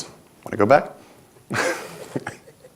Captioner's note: laughs; audience laughs